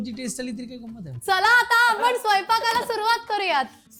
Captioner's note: shouts